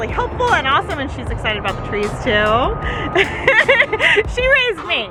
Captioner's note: laughs